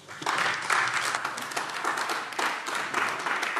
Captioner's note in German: Beifall AfD